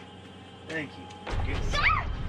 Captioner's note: Ashley screams